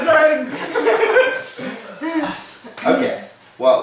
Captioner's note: cheerful laughing